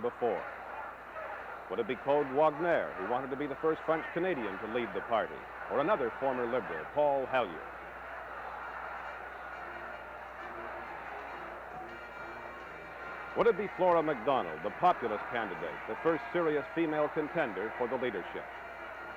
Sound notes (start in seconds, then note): 11.9 crowd noise